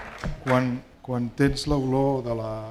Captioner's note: speaking spanish